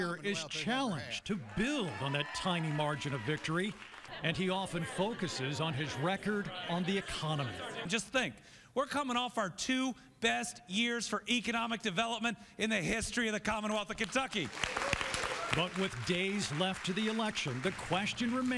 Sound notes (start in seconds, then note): 14.3 cheers